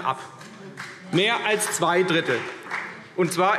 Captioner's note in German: Beifall CDU